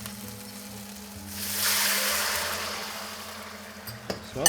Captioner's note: sizzling sound